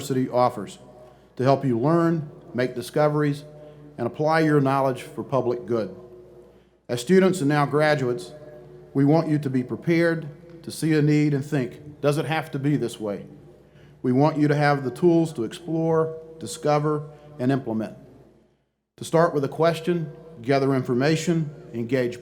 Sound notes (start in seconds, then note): none